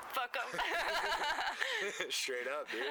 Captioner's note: laughter